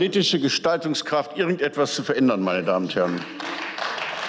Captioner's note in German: Beifall